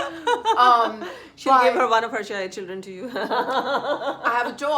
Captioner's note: laughs